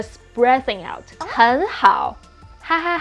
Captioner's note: speaking in Mandarin